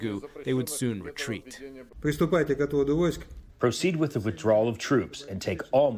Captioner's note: through translator